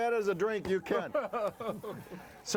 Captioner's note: laughing